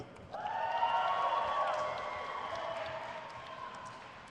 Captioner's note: crowd cheers